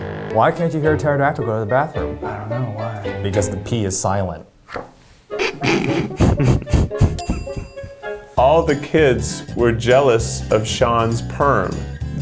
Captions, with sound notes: - Why can't you hear a pterodactyl go to the bathroom? - I don't know, why? - Because the P is silent. (sniggering) (laughing) (bell rings) - All the kids were jealous of Shawn's perm.